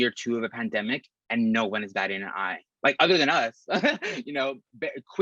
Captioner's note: risas